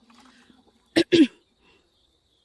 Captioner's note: cough cough